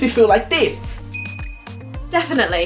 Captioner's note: ding